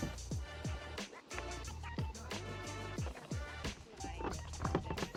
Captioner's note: rustling and rushing